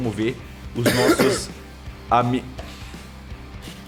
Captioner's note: coughs